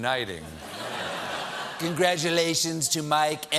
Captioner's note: laughter